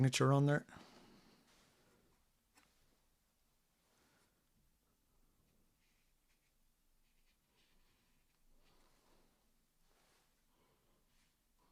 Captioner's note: silence